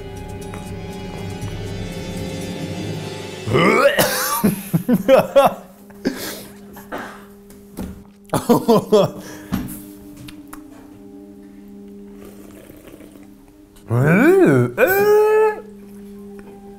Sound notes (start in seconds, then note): 0.0 dramatic music; 3.4 gags and coughs; 5.0 laughs; 13.9 exclaims